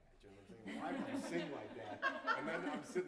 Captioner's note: laughter